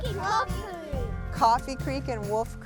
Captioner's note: children chattering